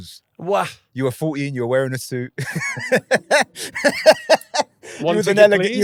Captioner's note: laughing